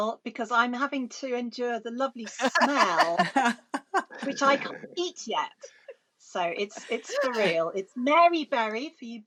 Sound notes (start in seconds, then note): 2.2 laughing